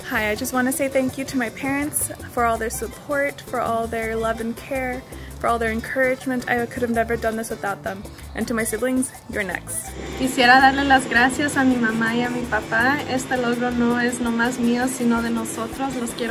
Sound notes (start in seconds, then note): 10.1 speaks in foreign language